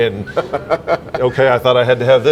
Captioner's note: laughs